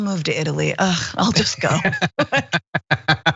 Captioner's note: laugh